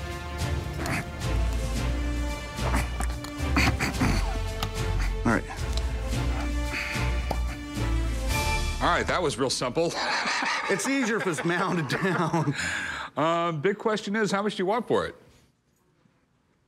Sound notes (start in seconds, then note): 9.9 laughs